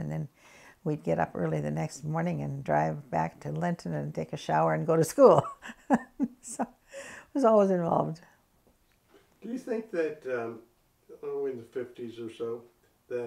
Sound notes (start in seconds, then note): 5.5 laughs